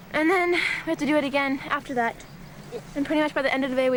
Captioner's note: sighing